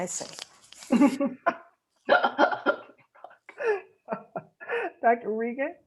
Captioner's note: laughter